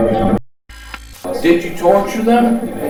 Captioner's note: static fizzing